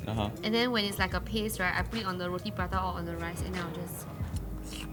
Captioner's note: nom